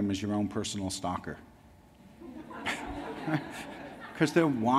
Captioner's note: laughs